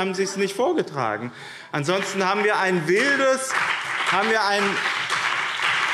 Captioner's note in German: Beifall BÜNDNIS 90/DIE GRÜNEN und CDU